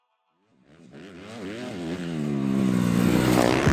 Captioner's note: dirtbike riding up